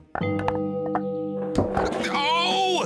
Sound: clatter!

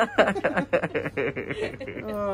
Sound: laugh

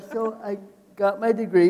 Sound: laughing

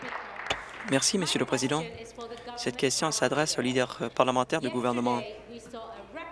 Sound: applause

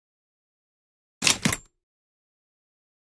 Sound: sound of typewriter

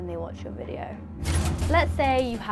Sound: suspenseful music; light buzzing

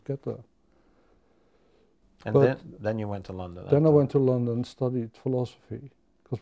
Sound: none

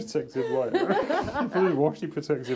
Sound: laugh

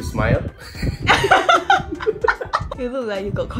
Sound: laughs

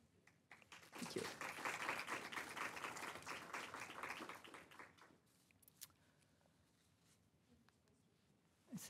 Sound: applause

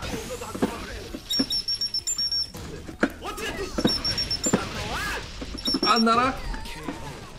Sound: chirp chirp chirp

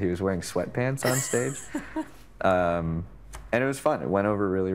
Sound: chuckling

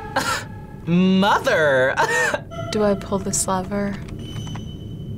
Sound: chuckles

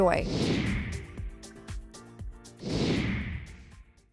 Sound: subtle music; air whooshing

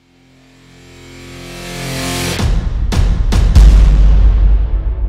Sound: explosions

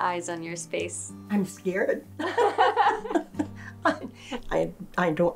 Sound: both laughing

